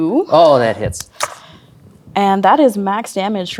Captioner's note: dice rolling